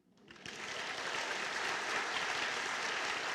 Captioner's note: applause